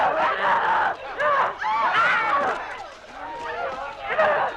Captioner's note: Hundra roaring